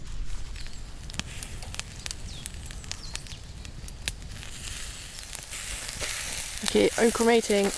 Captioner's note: crackle & sizzle